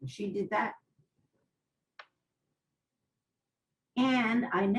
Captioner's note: pauses for 3 seconds